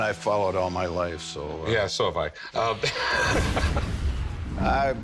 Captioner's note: both laugh